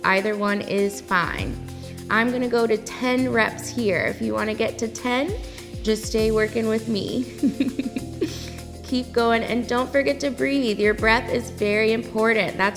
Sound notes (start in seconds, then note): 7.4 laughs